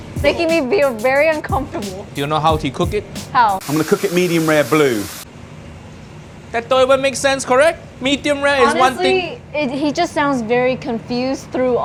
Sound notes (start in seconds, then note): 4.8 oil sizzling